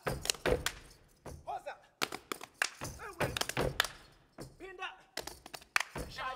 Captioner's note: speaking language other than English; feet stomping and hands clapping; speaking language other than English